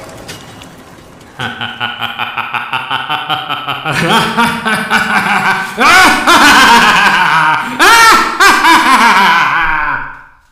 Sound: evil laugh

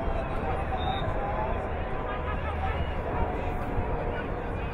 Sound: whistle blowing

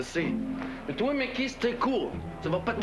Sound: Avec un accent

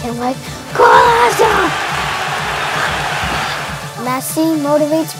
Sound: crow cheering

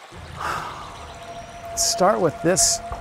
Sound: sighs

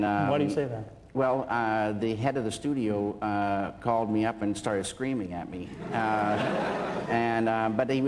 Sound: laughter

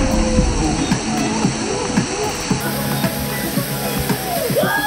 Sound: continuous splashing

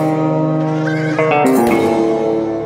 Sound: horse neighs; spurs jingle

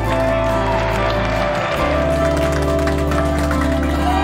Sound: people clapping; people cheering

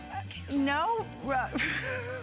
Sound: laughter

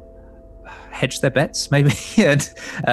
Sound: laughing

